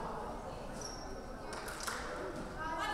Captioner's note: none